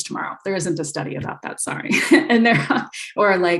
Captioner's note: laughs